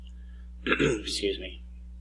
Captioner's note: clears throat